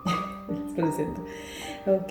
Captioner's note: laughter